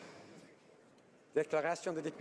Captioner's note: speaking French